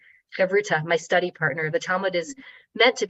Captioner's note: speaking in foreign language